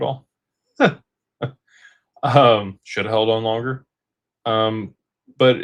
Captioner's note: laughter